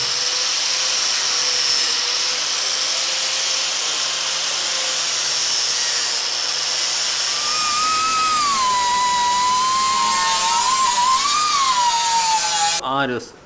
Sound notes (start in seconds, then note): none